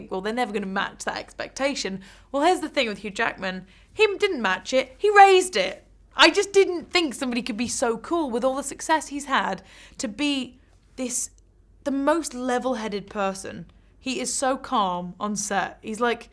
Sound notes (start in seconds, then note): none